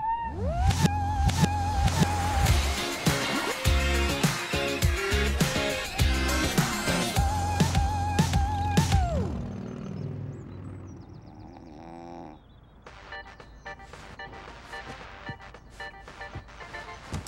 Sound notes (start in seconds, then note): 2.0 rock music; 11.2 snoring; 13.6 cell phone ringing